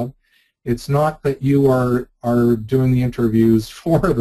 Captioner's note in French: rire